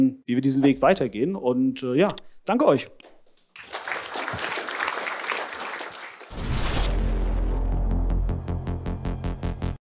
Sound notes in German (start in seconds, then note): 3.4 Applaus